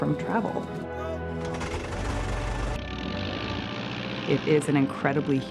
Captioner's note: propellers whirring